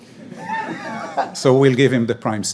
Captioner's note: all laugh